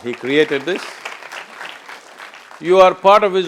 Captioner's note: applause